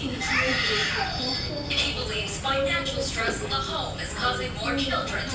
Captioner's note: child Yelling